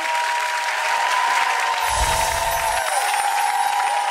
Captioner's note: audience cheering